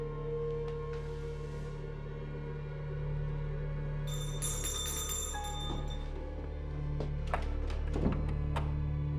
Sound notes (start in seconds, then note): 1.9 bell ringing